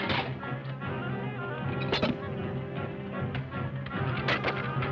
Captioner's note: jug clatters; portrait thuds